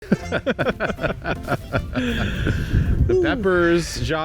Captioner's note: both laughing